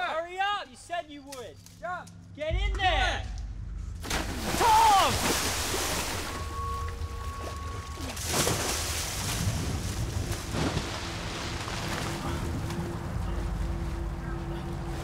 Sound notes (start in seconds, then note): 4.3 splashing; 8.5 dramatic music; 8.5 splashing